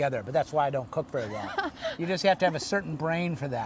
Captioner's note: laughing